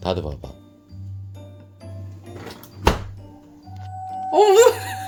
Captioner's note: ghost sound